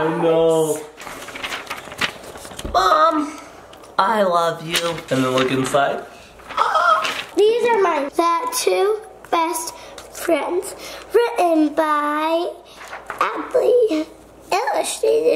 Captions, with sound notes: - I know. Mom, I love you. And then look inside (gasps). - These are mine, "the to Best Friends," written by Adley, illustrated by Adley.